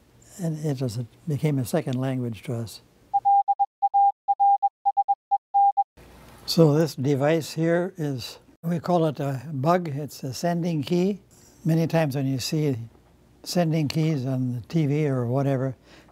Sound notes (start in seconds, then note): 3.2 morse Code being sent over a telegraph